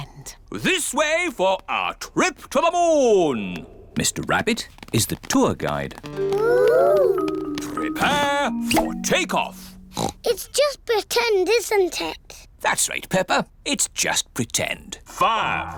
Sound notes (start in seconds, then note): 9.8 oinks; 15.6 on speakers